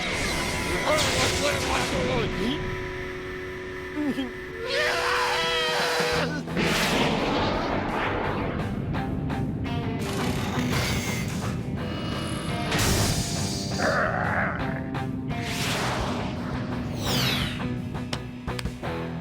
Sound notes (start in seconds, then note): 4.6 screaming, whistle blowing; 13.6 growling